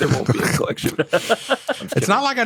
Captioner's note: laughter